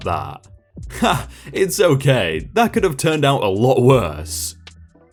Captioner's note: laughs